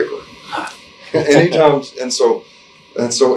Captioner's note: interviewer 2 chuckles